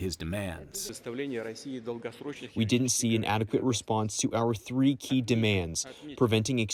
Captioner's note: through translator